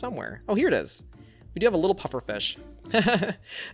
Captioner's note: laughs